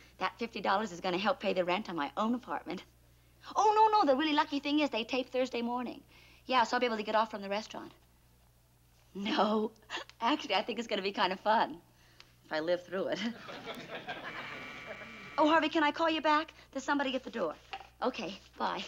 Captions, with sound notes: That $50 is gonna help pay the rent on my own apartment. Oh, no, no, the really lucky thing is they tape Thursday morning. Yeah, so I'll be able to get off from the restaurant. No, actually, I think it's gonna be kind of fun, if I live through it. (doorbell buzzes) Oh, Harvey, can I call you back? There's somebody at the door. Okay, bye.